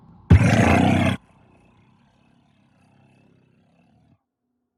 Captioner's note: loud rattling